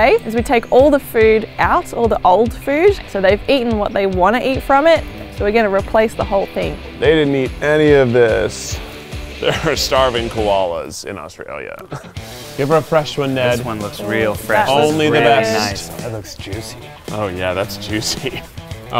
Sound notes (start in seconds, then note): 11.7 laughs